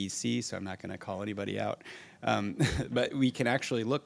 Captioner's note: laughs